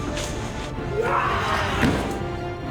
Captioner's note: yells